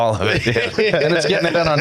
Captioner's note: laughing